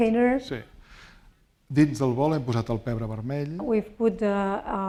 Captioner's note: speaking spanish